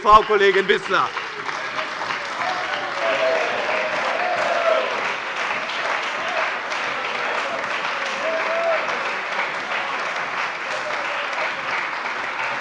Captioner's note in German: Anhaltender lebhafter Beifall bei dem BÜNDNIS 90/DIE GRÜNEN und der CDU